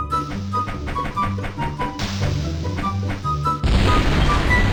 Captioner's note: none